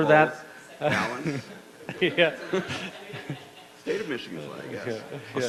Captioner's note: laughing